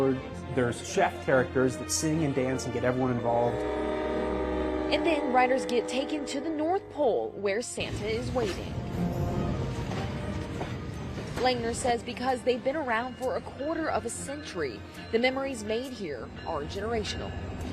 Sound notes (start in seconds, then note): 4.0 train hooting; 9.2 upbeat music